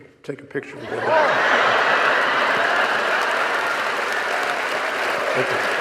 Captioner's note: audience laughing and applauding